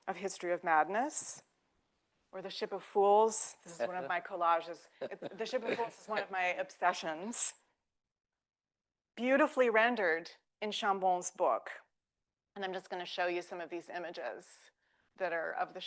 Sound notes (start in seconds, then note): 5.0 laughs